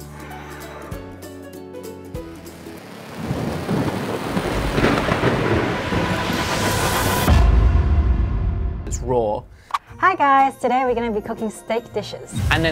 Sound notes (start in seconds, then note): 0.0 cheerful music; 3.1 thunder rumbles